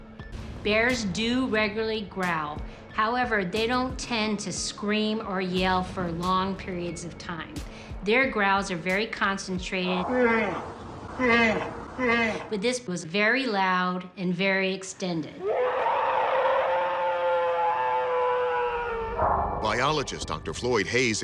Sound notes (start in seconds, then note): 9.9 bear growling; 15.4 alleged bigfoot roaring